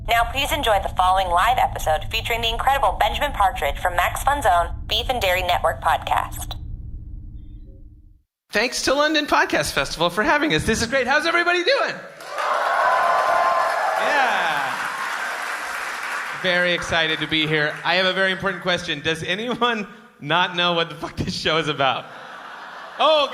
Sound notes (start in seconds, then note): 12.2 cheers; 22.1 laughter and cheers